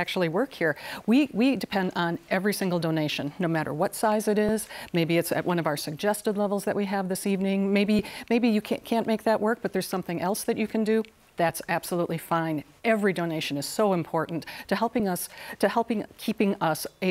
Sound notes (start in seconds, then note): none